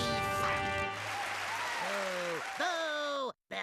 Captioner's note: crowd cheering; booing